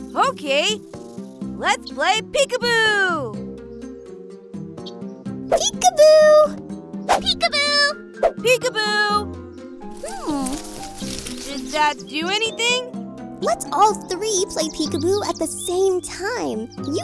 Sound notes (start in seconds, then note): none